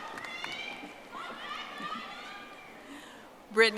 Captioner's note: audience applauding